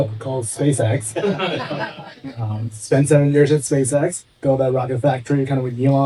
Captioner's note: laughing